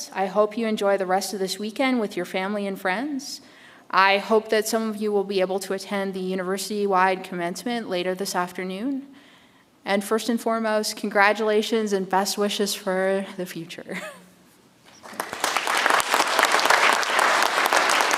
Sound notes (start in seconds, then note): 13.9 chuckles; 15.0 audience applauds